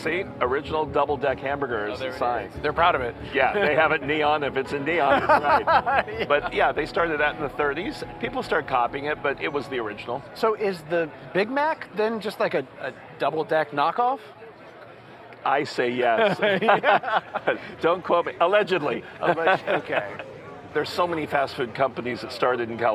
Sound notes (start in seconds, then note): 16.1 laughter